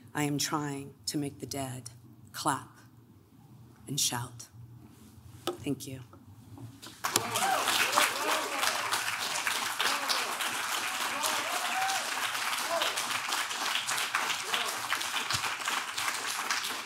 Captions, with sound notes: I am trying to make the dead clap and shout. Thank you. (clapping) (applauds)